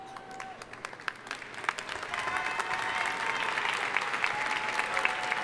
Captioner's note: audience applauding